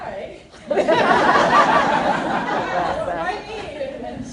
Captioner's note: laughter